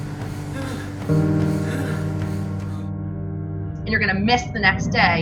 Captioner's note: heavy breathing; dramatic piano music